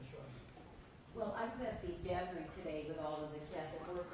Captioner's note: voiceover